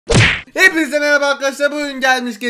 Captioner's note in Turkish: kafa sesi̇